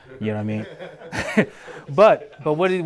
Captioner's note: panel chuckles